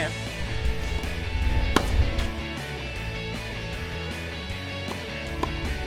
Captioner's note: tennis balls whacking